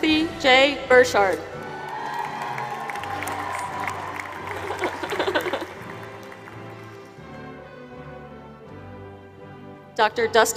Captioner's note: applause